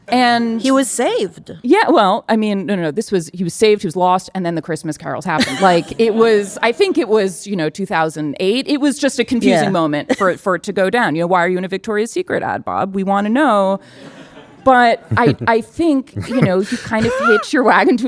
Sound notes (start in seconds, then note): 9.4 laughing; 15.0 audience laughing